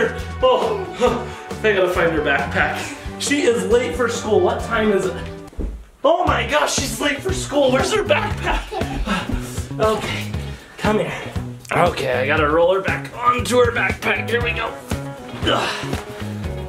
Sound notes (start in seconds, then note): 8.8 heavy breathing